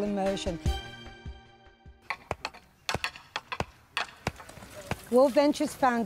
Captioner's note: sound of driving stake into the ground